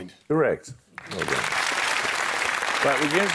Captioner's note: applause